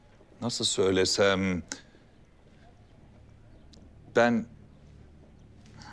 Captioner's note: none